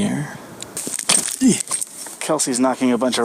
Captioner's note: rocks crunch